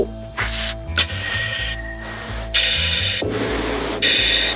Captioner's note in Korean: 달라지는 호흡 소리